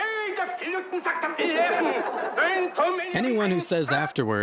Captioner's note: speaking foreign language